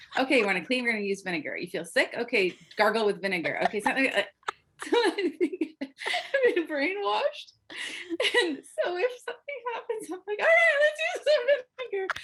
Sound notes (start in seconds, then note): 3.4 laughter